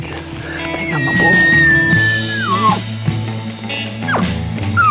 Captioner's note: elk bugle